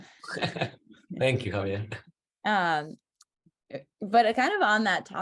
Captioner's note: laughs